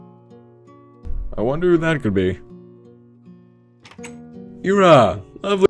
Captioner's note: knocks on the door